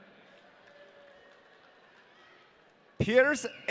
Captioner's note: audience cheering